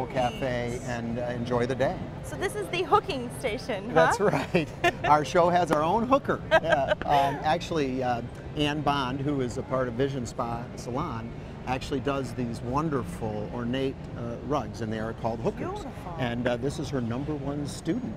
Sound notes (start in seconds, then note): 4.0 laughs